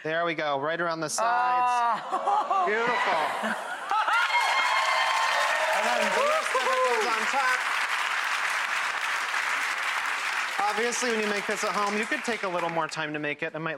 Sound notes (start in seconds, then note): 2.2 audience cheering and applauding